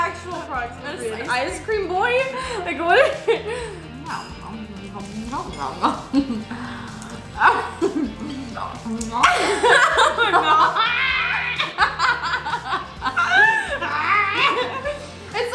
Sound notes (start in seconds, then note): 8.9 laughs; 14.0 both laugh